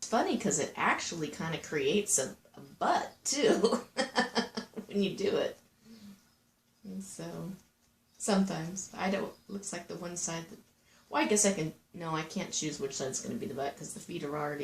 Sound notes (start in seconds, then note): 3.5 laughing